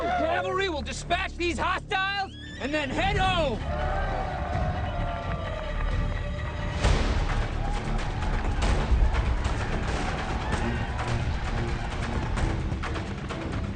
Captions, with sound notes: The Seventh cavalry will dispatch these hostiles and then head home! (gunshots) (tense dramatic music)